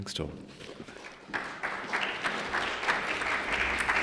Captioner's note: applause